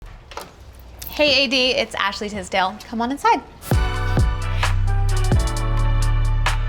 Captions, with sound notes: [door clacks] - Hey AD, it's Ashley Tisdale. Come on inside. [upbeat music]